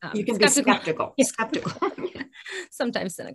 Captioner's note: chuckles